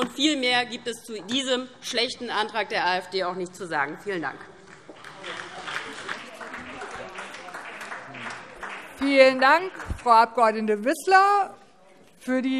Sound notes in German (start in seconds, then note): 4.7 Beifall DIE LINKE und vereinzelt SPD